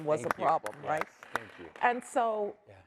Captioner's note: applause